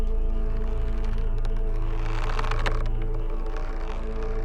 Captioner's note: dramatic music; rope creaking